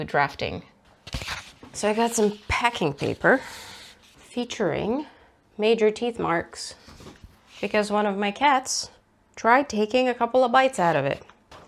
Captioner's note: paper rustles